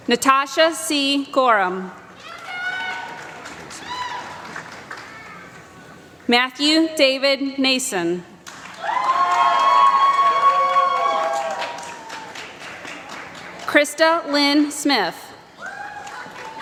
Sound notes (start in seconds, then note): 2.2 applause; 13.0 applause; 15.6 applause